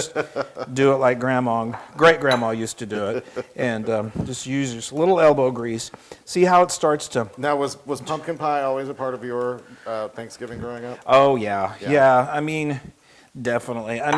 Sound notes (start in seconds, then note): 2.9 laugh